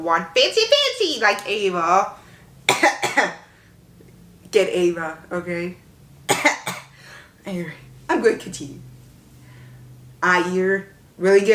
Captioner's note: cough